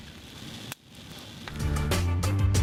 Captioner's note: fire blazing